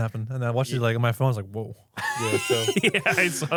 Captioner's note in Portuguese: risos